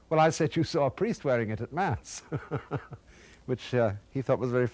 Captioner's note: chuckles